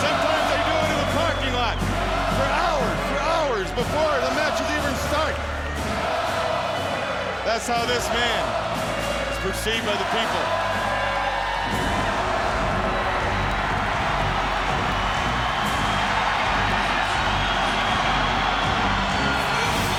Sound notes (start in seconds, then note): 14.5 crowd cheers